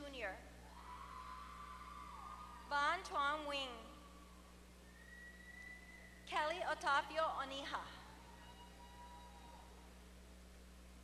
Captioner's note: applause